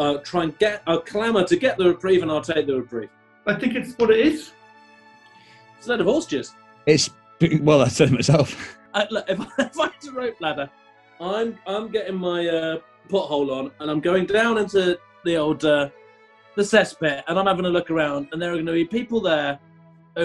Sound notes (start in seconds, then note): 9.3 laughing